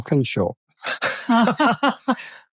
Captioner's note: everyone laughs